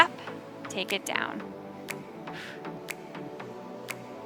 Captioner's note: exhales